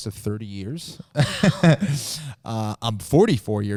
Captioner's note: chuckles